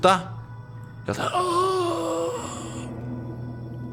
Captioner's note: existed moans